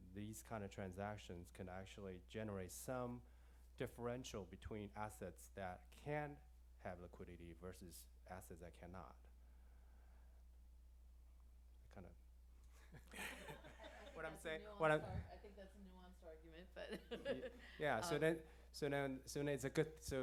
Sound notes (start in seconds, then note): 12.8 laughter; 16.7 laughs